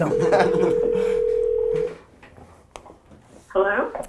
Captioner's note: group laughter; laughs; phone ringing